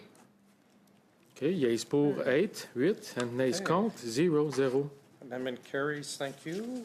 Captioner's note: speaking French